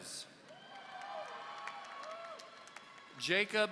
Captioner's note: audience cheering